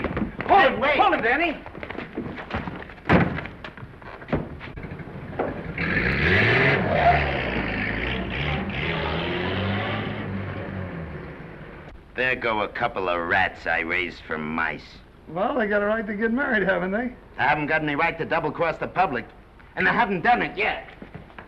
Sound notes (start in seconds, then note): 2.8 car door closes; 4.8 car accelerates away